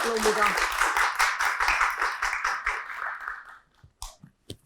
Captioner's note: clapping